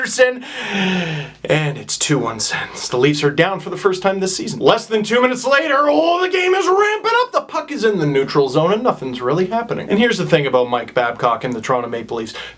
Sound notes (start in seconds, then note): 0.4 sighs